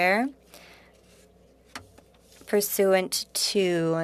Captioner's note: speaking French